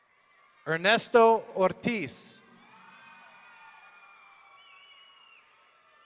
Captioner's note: audience cheering